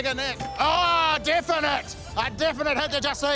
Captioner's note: ding!